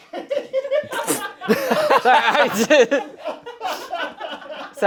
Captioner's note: group laughing